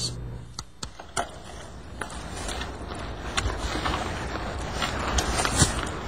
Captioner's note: rustling sounds